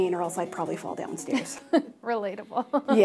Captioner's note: laughs